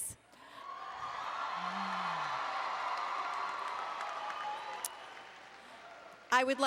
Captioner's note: applause and Cheering